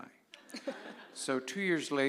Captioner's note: laughter